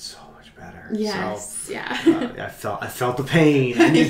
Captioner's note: laughs